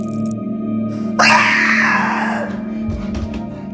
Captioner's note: Shine screams